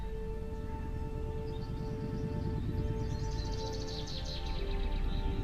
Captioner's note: airplane engine humming